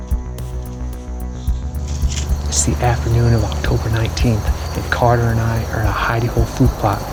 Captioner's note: whispering